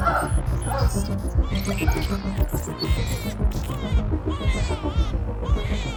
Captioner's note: robotic sounds of shrieker; baby crying